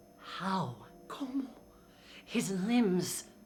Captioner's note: speaking in foreign language